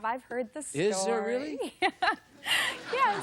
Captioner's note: laughter